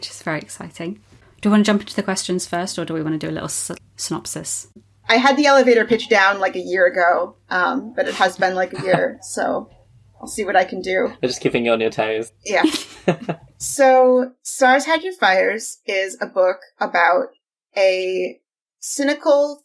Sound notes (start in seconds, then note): 8.0 laughs; 12.6 laughing